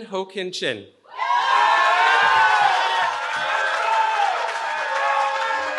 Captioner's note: cheering